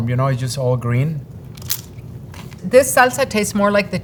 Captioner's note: mouths crunching